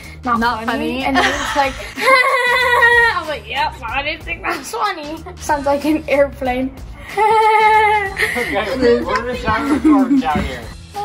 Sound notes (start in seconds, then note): 1.1 laughing; 7.1 laughing